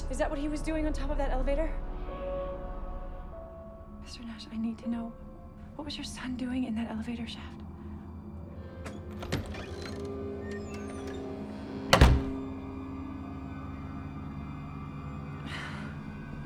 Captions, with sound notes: Is that what he was doing on top of that elevator? (eerie music) Mr. Nash, I need to know, what was your son doing in that elevator shaft? (eerie music) (door latch clicks) (door slams) (eerie music)